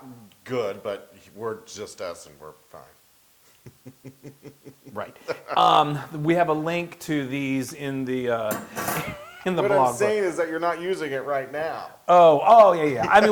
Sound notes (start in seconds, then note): 3.6 laugh; 8.5 laugh; 12.6 laugh